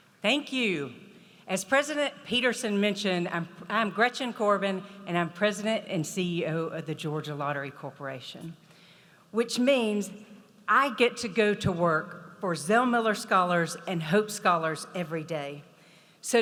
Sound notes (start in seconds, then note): none